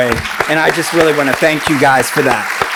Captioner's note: applauds